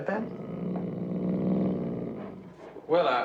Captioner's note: growling